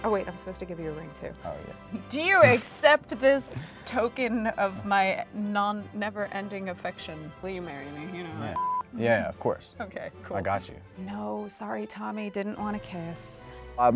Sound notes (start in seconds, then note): 8.5 beep